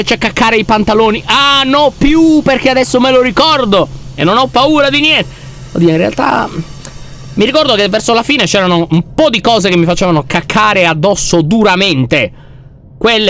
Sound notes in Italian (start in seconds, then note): 5.8 esitante